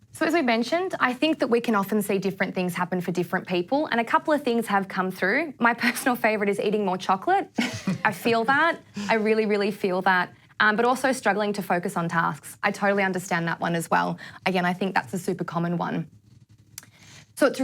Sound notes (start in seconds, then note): 7.6 laughs